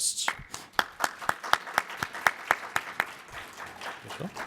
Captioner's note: audience applauds